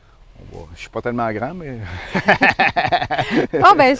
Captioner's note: laughter